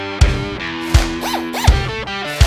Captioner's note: drill whirring